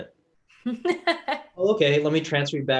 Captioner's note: laughing